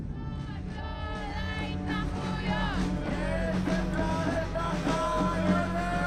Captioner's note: speaking foreign language; all speaking foreign language